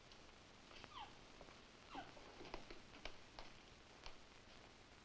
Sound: Ramona chittering

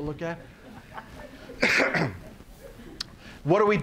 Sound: audience laughing, coughs

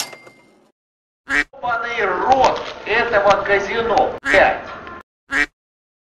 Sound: quack

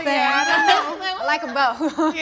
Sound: all laugh

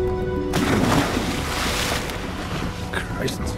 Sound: water splash

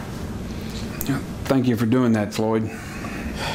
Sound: sighs

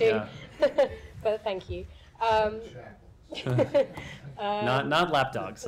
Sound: laughter

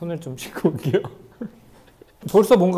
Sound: hehehe

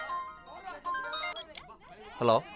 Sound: phone ringing

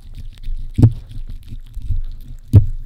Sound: lick lick lick lick lick lick lick lick lick lick lick lick

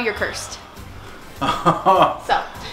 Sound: laughs

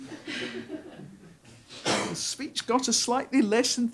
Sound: audience laughs

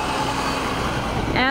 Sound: nat pop of isu bus

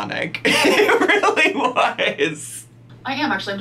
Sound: laughing

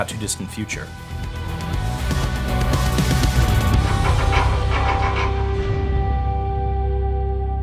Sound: upbeat music; vault handle spinning

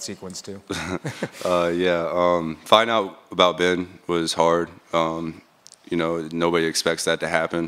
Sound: laughs

